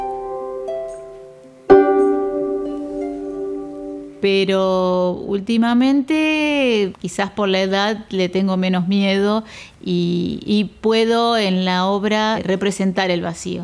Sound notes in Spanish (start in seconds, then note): 1.7 gong